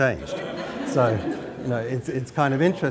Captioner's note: laughter